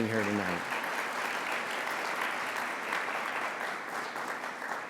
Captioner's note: audience applauds